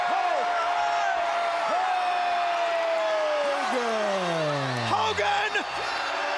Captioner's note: crowd cheers